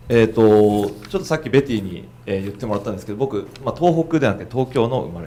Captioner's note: speaking foreign language